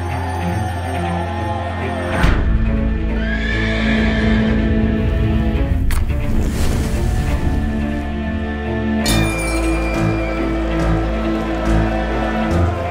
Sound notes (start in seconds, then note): 3.2 horse neighs; 9.7 suspenseful music